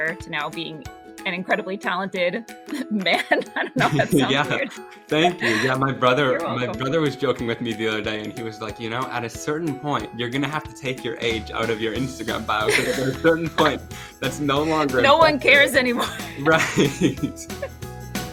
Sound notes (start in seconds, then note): 2.8 laughing; 12.6 laughing